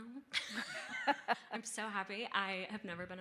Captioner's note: laughing